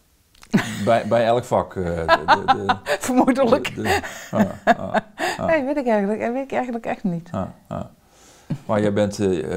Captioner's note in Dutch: Lacht